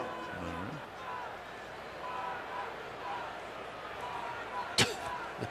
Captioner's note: crowd chanting